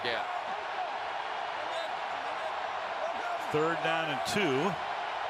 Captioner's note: cheering